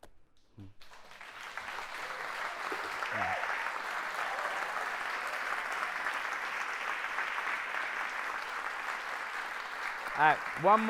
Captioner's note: cheering and applause